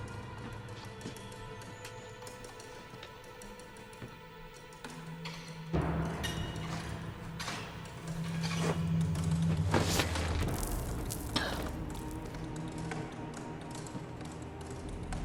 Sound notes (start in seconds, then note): 11.4 Crystal coughs